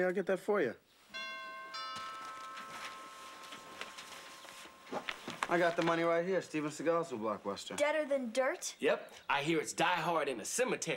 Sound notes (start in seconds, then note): 1.1 doorbe cllhimes